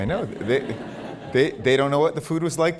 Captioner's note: laughter